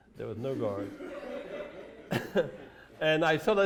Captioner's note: laughter